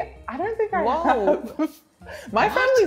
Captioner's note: laughs